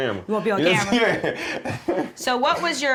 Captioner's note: laughter